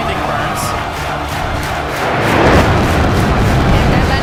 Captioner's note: crowd chanting